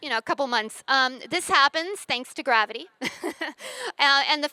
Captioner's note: chuckles